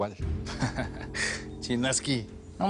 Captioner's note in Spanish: Risas